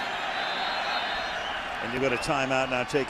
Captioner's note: whistling